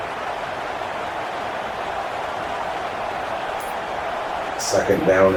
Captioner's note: crowd Noises